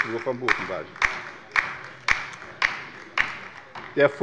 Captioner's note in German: Beifall bei der LINKEN